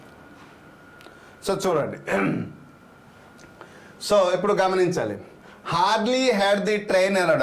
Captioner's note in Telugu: గొంతు సవరించుకోవడం